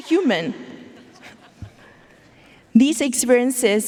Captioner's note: audience laughing